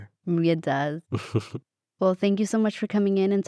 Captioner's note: laughs